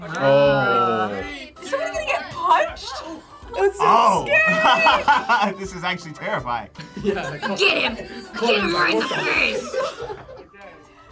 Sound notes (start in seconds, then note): 4.4 laughs; 6.8 laughs